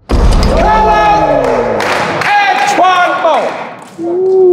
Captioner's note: participants cheer